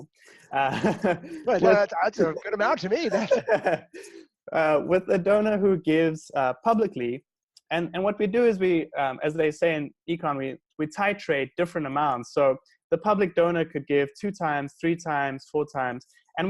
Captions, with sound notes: – That’s a good amount to me! (laughs)– – with the donor who gives publicly, and what we do is we, as they say in econ, we titrate different amounts. So the public donor could give 2x, 3x, 4x.